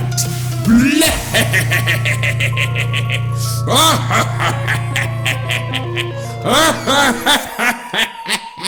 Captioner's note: laughing maniacally